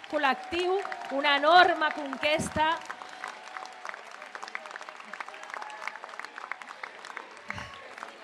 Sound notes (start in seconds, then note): 3.4 applause